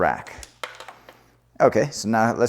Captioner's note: security cable clatters